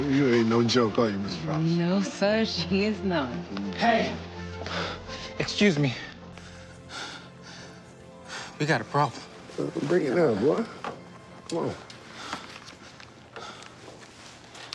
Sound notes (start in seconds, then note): 0.0 laughs; 5.9 breathing heavily